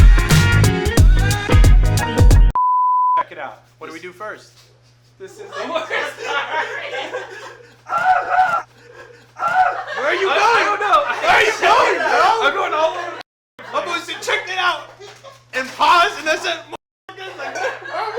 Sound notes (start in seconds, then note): 5.1 laughing; 7.8 screaming